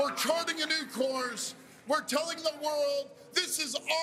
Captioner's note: cheers and Applause